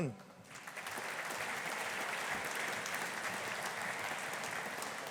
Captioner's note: audience applauding